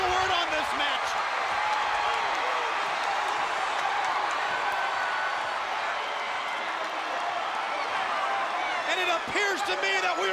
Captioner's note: crowd chatter